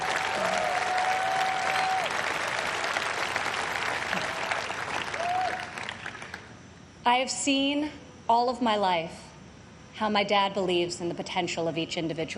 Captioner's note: applause